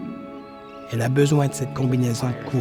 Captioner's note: seabirds crying